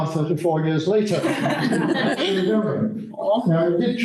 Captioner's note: laughter